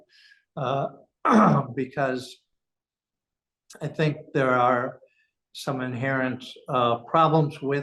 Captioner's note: cough